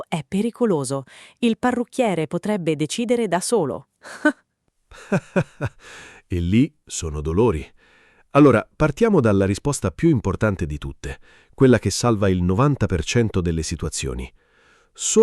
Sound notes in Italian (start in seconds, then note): 4.9 Haha